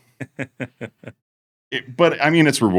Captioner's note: laughter